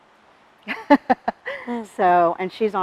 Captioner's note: laughs